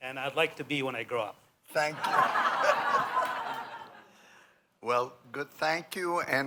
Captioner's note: laughter